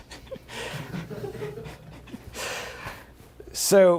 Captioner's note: laughter